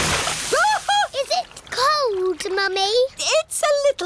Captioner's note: shrieks